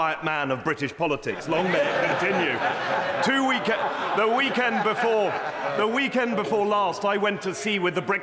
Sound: laughter

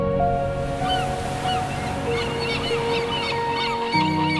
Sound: ocean waves crashing and seagulls squawking

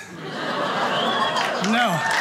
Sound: audience cheers

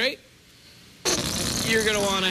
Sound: farting noise

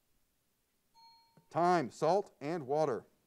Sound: bell pings

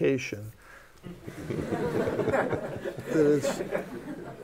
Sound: laughter

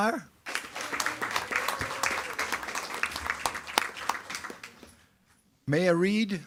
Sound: attendees clapping and cheering

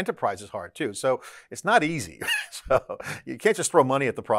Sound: laughs

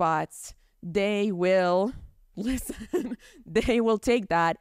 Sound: chuckles

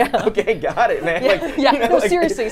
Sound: laughs

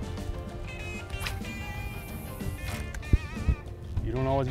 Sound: reel whizzes

